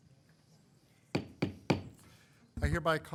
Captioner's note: gavel knocks